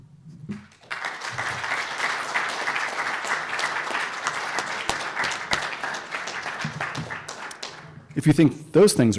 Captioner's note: applause